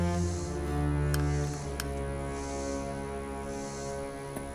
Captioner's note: light clicks